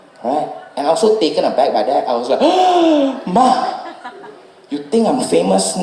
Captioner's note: gasp